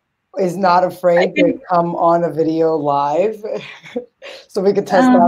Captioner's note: chuckles